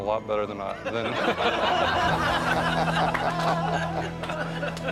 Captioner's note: everyone laughing